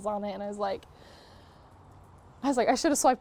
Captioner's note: inhale of regret